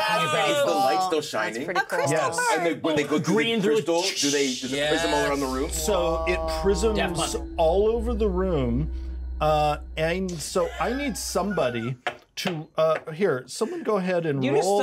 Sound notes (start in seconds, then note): 10.3 speaker chuckles